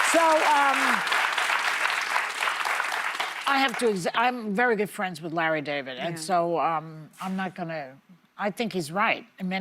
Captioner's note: applause